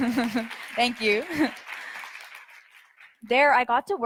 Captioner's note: audience applauds